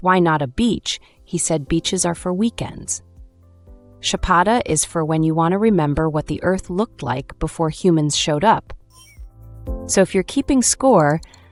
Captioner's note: thoughtful